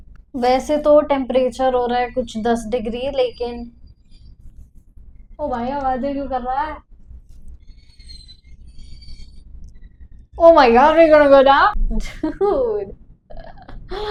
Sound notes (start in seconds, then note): 2.8 creaking sound; 7.2 more creaking sound